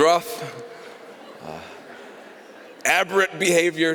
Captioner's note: laughter